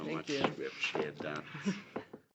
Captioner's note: laughter